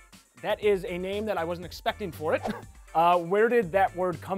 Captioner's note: laughs